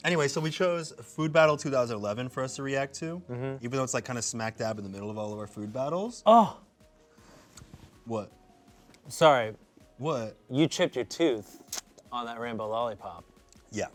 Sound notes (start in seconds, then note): none